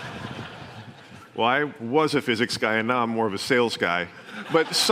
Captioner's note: laughter